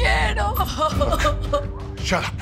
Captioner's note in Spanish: Sollozos